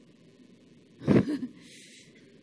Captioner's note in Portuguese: Risos